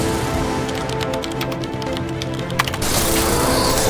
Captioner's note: keyboard clacking